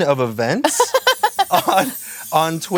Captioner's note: Blaire laughs